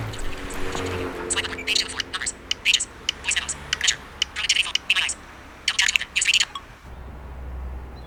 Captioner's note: sound of an iPhone screen reader playing at 2X speed